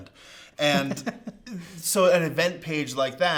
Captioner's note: laughs